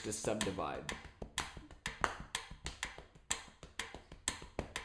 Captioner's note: tapping and ticking sound